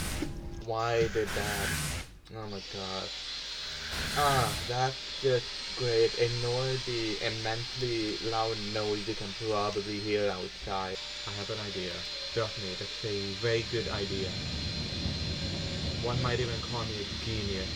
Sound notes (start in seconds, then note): 2.8 extremely loud vacuum begins playing in background